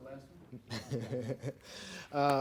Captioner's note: laughing